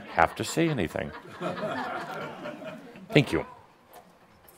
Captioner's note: some chuckles